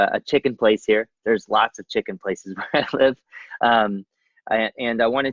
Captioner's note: laughs